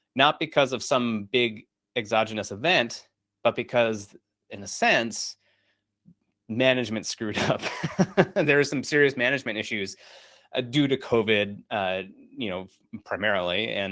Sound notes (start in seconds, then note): 7.6 laughs